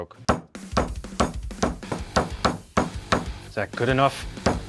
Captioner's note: energetic music; hand thudding